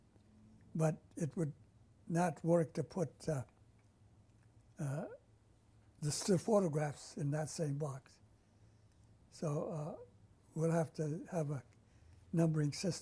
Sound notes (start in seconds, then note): 4.8 pauses for 3 seconds